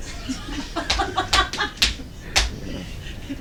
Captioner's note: background laughter